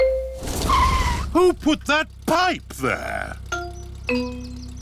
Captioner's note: tires screech